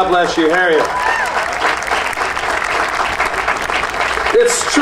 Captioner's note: audience cheering and applauding